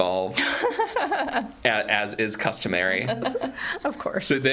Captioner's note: laughing